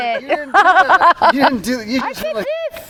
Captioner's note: person laughing